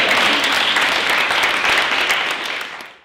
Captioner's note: applause